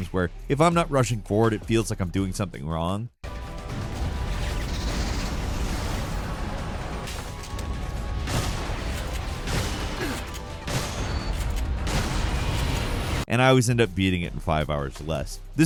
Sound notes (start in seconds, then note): 4.0 dramatic music; 8.4 gunshots